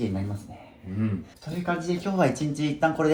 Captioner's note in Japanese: 咳払い